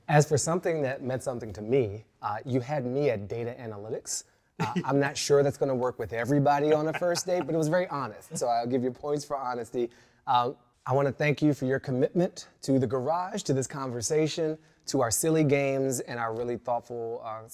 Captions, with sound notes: - As for something that meant something to me. You had me at data analytics. (guests laughing) I'm not sure that's gonna work with everybody on the first date, but it was very honest. So I'll give you points for honesty. I want to thank you for your commitment to the garage, to this conversation, to our silly games and our really thoughtful,